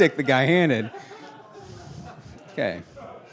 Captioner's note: laughing